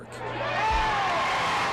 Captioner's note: cheers